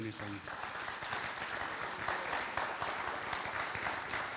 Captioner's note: audience applauds